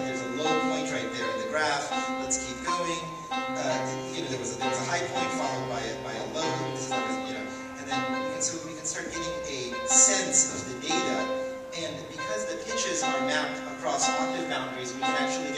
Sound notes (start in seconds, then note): 2.6 dings are lower in pitch; 4.3 dinging pitch becomes lowest at the low point in the graph; 9.0 dings get a little higher in pitch as graphing points move upwards